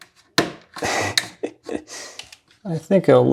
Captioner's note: laughing softly